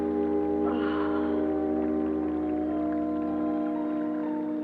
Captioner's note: Delia sighs